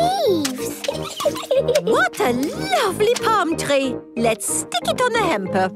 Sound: giggles

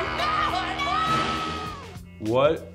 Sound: Mrs. Puff yelling

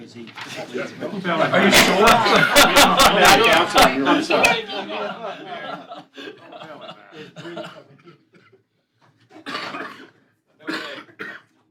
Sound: laughter

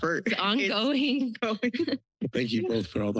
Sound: laughter

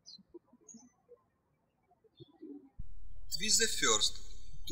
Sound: birds chirping

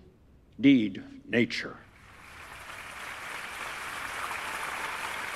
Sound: applause

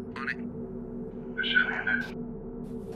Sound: over walkie

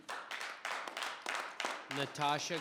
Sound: audience applauding

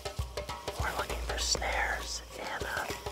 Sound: whispering

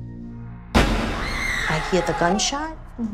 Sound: gunshot

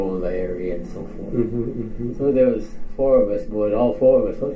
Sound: chuckles

